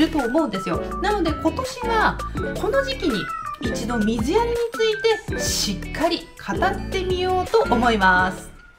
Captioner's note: meow of a cat